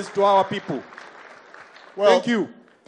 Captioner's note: applause